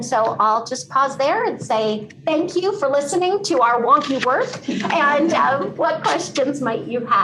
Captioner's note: laughter